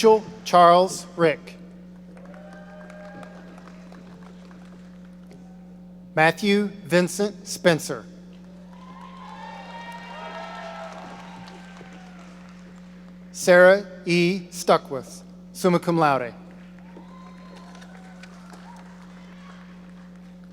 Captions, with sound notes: Mitchell Charles Rick. (audience applauding) Matthew Vincent Spencer. (audience cheering) Sarah E. Stuckwisch, summa cum laude. (audience applauding)